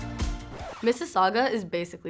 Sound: lighthearted music; record scratches

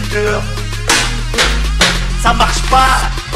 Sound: tap tap tap

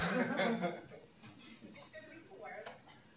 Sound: laughter

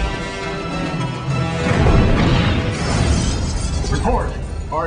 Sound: explosion

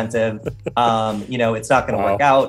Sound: laughing

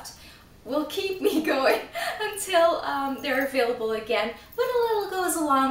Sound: laughs

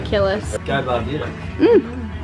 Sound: speaks in foreign language

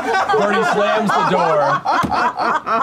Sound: thud

